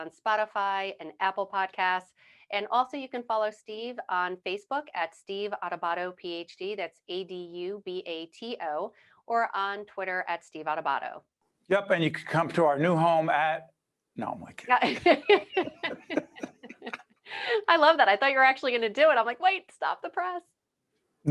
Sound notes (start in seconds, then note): 14.8 laughing